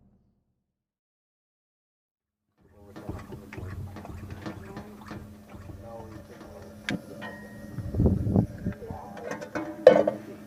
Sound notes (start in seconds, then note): 2.6 pumping sound